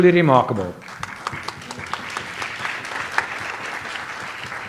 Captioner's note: audience applauds